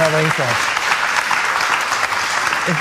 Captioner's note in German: Applaus